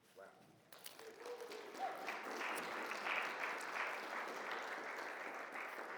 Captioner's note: audience applauds and cheers